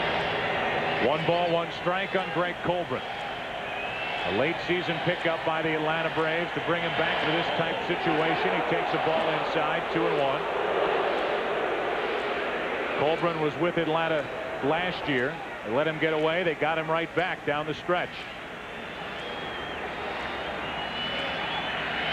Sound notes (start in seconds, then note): 14.5 crowd booing